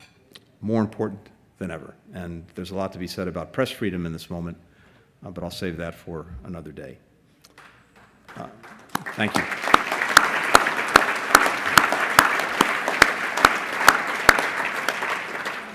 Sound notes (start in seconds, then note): 7.8 applause